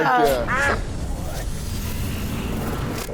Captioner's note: quack